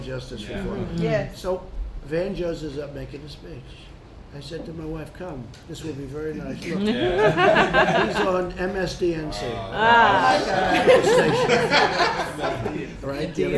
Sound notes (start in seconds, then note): 9.8 laughter